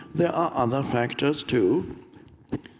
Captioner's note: none